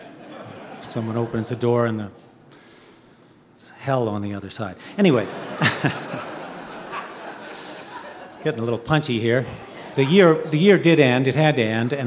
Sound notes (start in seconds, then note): 0.0 audience chuckling; 5.0 audience laughing; 5.1 chuckles